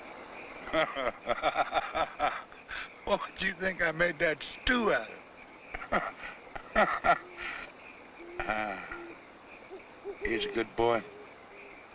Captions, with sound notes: (laughing) - What did you think I made that stew out of? (laughs) He was a good boy.